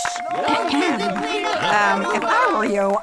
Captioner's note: clearing throat